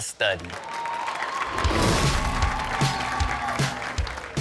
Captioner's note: audience cheering and applauding; upbeat music